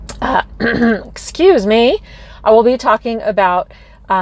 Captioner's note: coughs